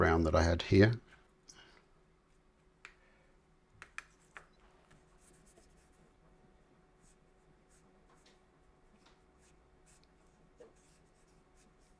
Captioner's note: silence